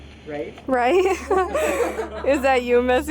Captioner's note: group laughing